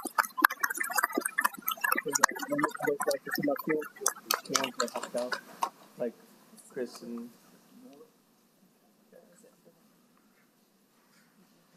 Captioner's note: applause